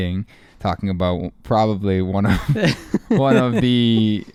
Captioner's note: laughing